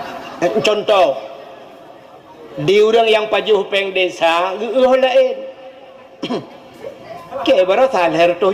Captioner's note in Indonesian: tertawa